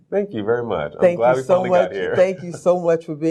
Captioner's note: laughs